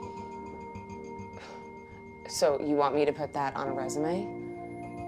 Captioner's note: scoffs